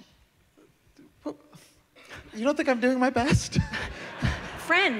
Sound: laughter

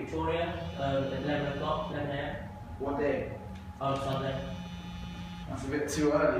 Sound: phone rings

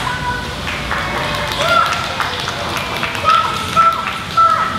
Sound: applause

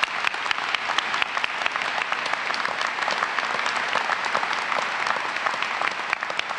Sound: applause

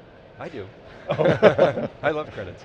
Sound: laughter

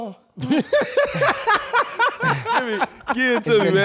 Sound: all laughing

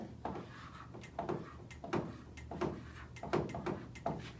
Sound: marker board rattling

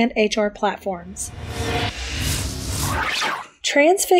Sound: metal whooshing

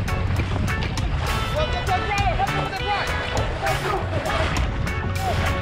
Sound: shouting

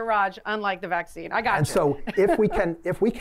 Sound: laughter

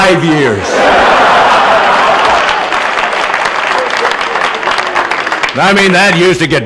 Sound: laughter

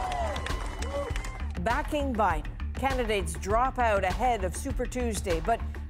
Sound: cheers and applause

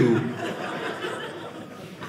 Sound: audience laughing

